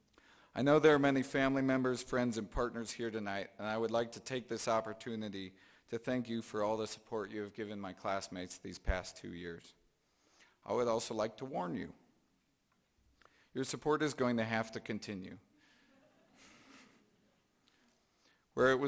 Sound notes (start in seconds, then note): 15.9 chuckling